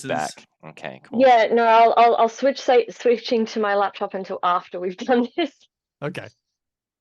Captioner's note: laughs